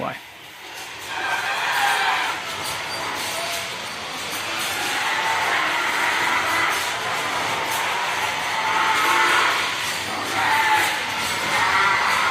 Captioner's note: pigs squealing